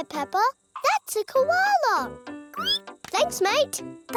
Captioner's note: squeals